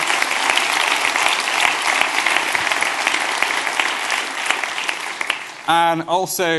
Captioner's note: applause